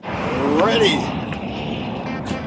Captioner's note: laughing